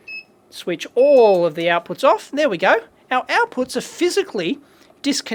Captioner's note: beeping